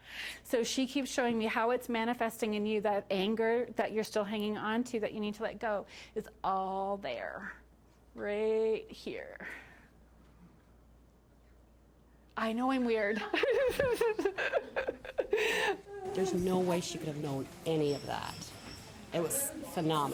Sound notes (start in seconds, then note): 13.1 laughing